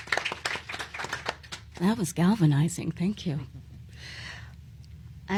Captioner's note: applause